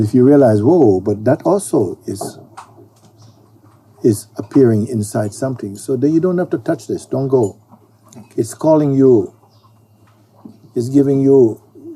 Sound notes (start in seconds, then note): none